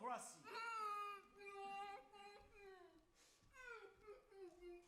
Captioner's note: woman groans